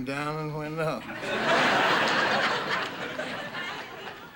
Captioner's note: audience laughing